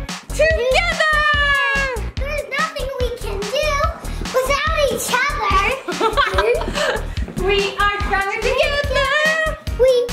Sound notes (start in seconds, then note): 5.8 mom laughing